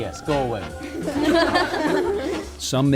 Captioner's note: student laughter